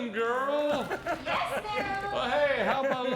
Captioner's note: laughing